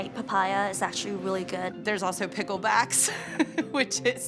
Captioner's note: laughs